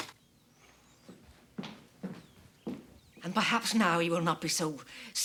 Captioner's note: blind rattling